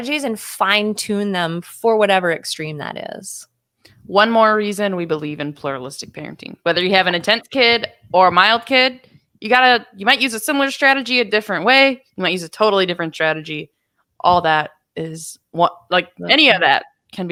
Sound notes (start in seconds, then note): none